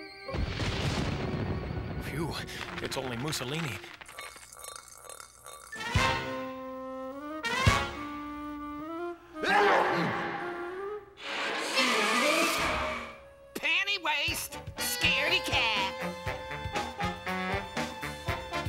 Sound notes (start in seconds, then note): 0.4 thunder rumbling; 9.4 loud sneeze